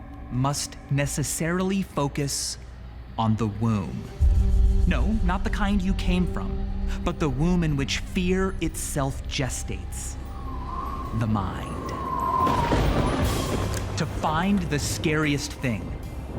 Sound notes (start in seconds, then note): 11.9 thunder crashes; 11.9 wind whistling